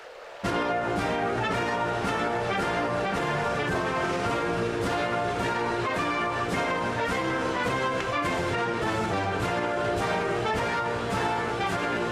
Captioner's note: applause